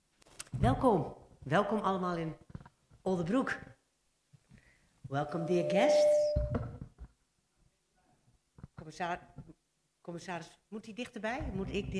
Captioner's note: microphone echo